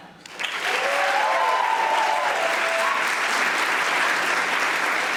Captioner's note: audience applauding